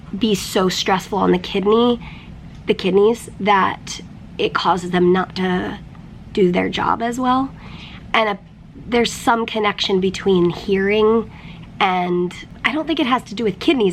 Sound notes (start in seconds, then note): none